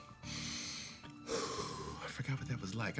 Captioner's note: exhales